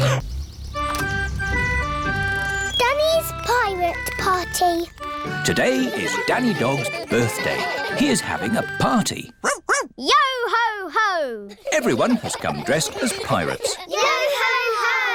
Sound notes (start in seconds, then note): 9.4 barks